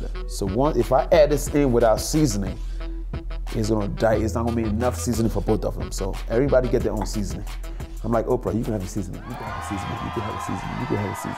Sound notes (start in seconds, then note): 9.1 audience cheers